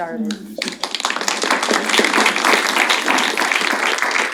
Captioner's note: applause